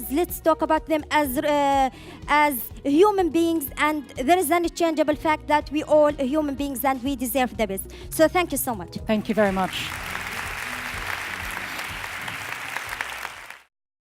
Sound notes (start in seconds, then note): 9.2 audience clapping